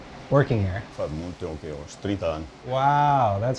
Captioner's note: speaking Portuguese